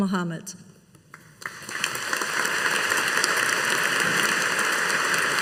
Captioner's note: audience applauding